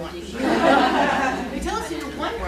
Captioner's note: laughter